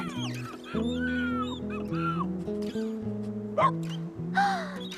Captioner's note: gasps; Scruffty Whimpering